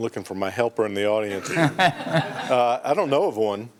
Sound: laughter

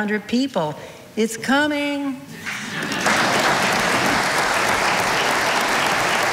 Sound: audience applauding

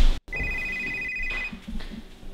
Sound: phone rings

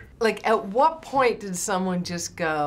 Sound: none

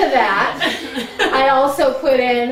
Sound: audience laughing

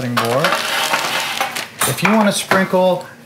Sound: clattering

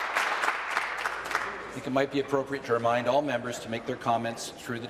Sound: applause

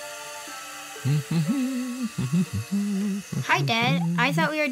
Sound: magical music; humming

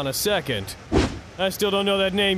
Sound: swoosh

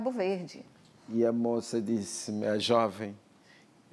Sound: speaking portuguese

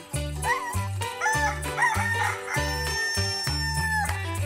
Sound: crowing

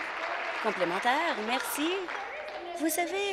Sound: applause

